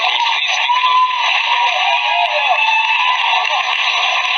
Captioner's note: audience cheers loudly and applause